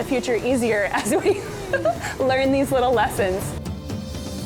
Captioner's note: chuckles; upbeat music